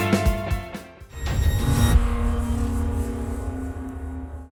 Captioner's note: electronic swoosh